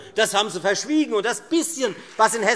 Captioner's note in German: Beifall Freie Demokraten